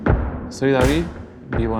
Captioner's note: in Spanish